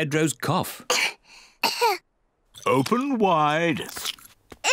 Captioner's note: both cough